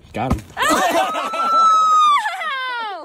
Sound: screams

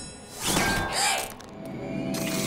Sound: gasps

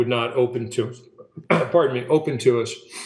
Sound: coughs

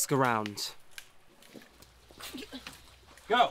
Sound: twigs snapping

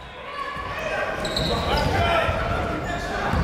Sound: chatter

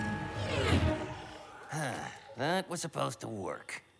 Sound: sighs deeply

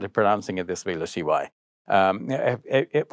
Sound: speaking foreign language

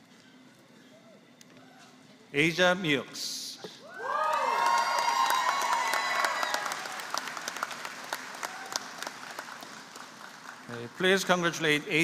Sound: applause

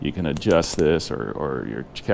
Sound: clicking

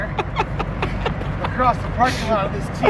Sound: laughs

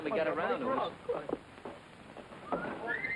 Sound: whistles

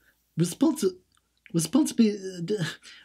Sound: mumbles and sighs

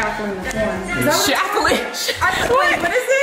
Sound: laughing

